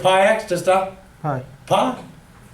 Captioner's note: voiceover